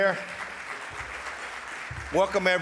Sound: audience applauds

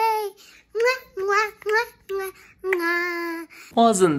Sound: kisses

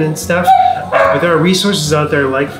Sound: dogs barking

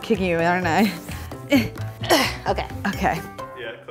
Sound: groaning; laughing

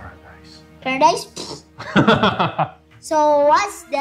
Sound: laughter

